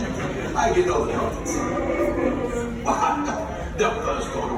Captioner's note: Chewbacca roars